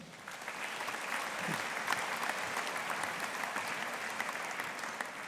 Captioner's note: audience applauding